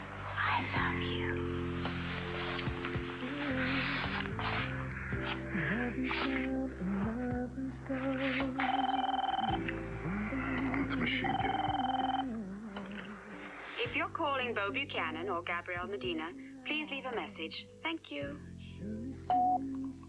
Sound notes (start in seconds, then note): 8.6 phone rings; 11.1 phone rings; 19.1 beep